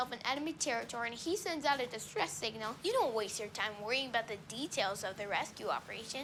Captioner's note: none